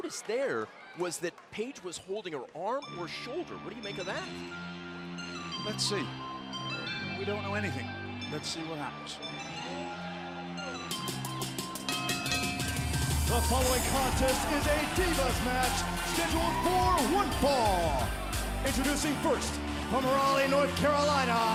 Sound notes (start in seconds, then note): 13.4 bell ringing